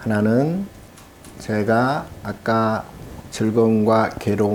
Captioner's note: speaking Korean